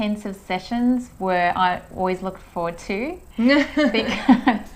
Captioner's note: both laughs